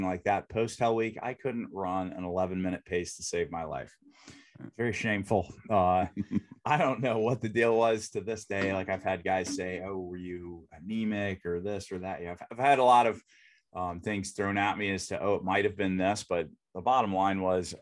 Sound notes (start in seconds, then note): 6.6 giggles